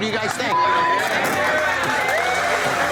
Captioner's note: cheers